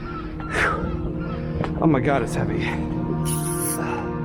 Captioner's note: breathing heavily